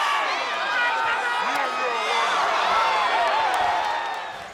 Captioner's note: audience cheering